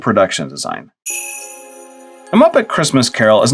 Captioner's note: sleigh bells